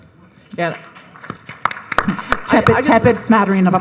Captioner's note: audience clapping